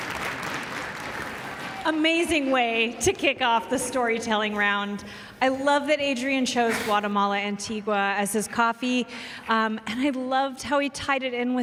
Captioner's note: cheers and applause